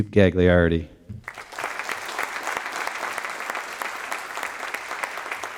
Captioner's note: applause